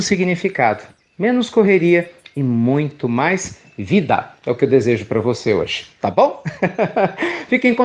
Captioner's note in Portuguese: Risos